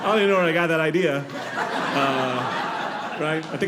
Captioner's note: audience laughing